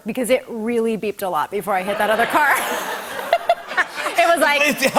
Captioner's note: laughter